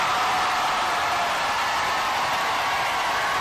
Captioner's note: cheers and applause